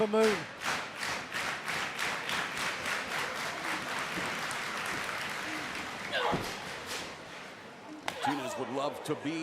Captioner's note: crowd chatter